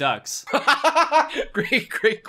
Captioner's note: laughs